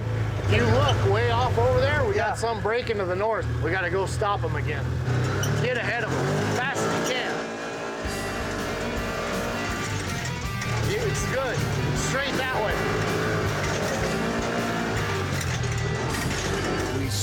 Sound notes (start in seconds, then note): 7.4 motor revving; 12.9 motor revving